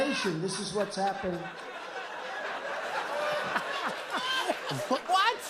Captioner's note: laughter